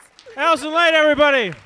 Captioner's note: audience applauds